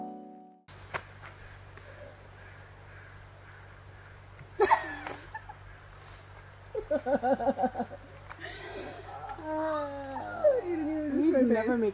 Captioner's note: laughs